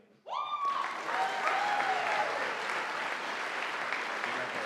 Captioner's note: audience applauding